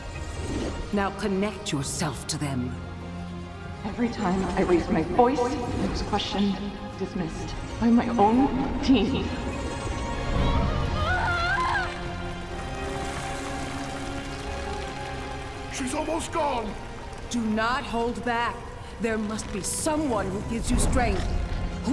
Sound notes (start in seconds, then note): 10.7 Keyleth screaming; 12.7 wood crackling